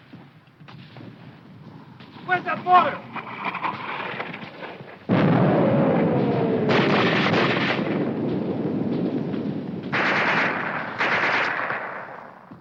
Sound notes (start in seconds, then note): 5.0 bomb exploding; 5.4 guns firing